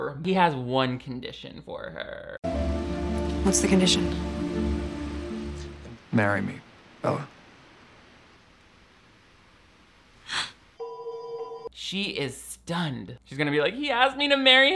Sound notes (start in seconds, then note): 10.2 Bella gasps